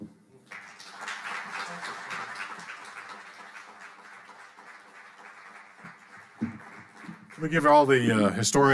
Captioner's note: audience applauding